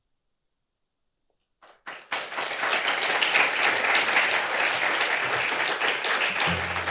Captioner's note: applause